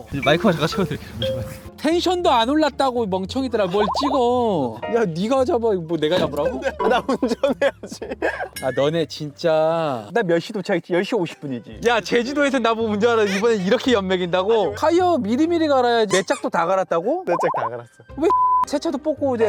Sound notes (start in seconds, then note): 8.5 holding back tears